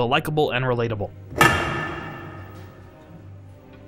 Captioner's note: clunk